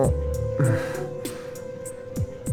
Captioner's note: sigh